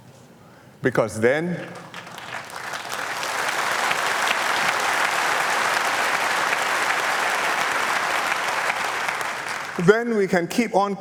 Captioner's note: applause